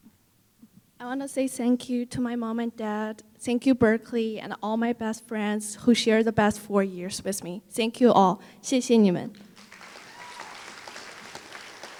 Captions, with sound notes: I want to say thank you to my mom and dad; thank you Berkeley and all my best friends who share the best four years with me. Thank you all! [Foreign Language]